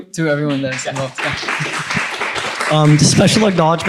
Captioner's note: applause